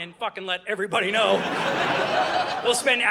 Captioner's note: audience laughing